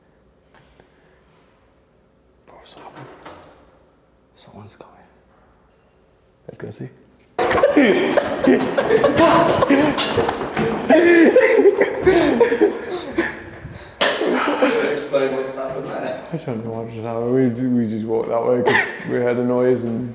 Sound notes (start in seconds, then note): 7.4 all laugh